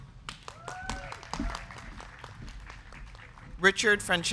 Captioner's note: crowd clapping; crowd cheering